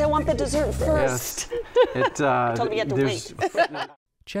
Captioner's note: laughs